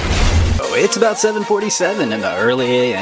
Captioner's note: tires squeal; crashing